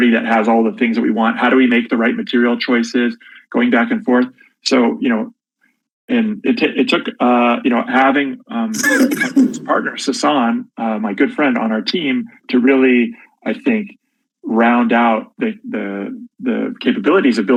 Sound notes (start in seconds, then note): 8.7 coughs